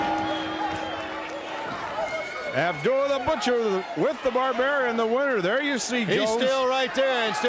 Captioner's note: bell ringing